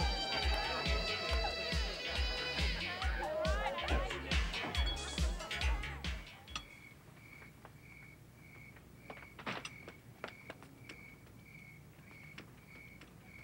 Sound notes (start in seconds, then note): 6.4 crickets chirping